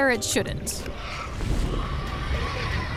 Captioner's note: birds caw